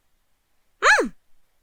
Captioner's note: cheerful hum